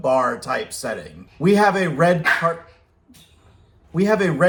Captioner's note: dog barks from off-screen